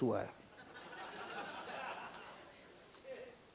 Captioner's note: laughing